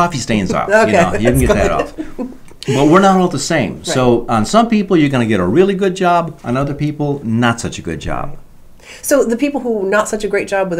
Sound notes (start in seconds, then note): 0.4 laughing